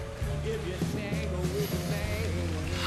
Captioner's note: sniffs deeply